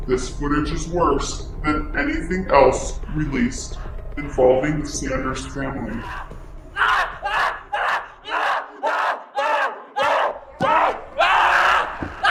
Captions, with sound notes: This footage is worse than anything else released involving the Sanders family. (Greg screaming)